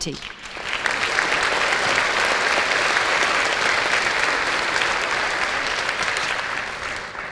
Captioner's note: applause